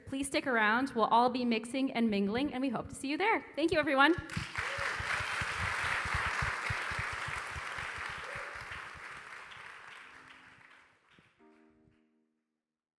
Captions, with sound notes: Please stick around. We'll all be mixing and mingling and we hope to see you there. Thank you everyone. (audience applauding)